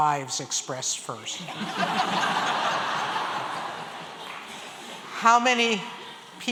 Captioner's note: laughter